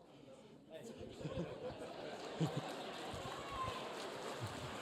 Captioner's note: people chuckling